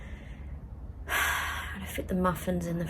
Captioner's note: sighs heavily